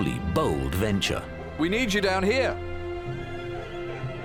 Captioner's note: in German